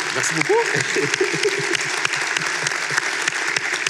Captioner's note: laughter and applause; applause